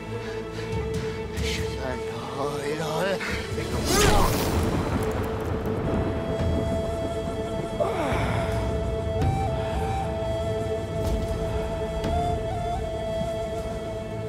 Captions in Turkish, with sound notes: Eşhedü en la ilahe... (İnilti sesi) (Gök gürleme efekti) (Hırıltı sesi)